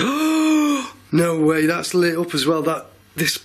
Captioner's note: gasps